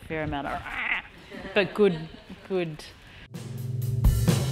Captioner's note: growling noise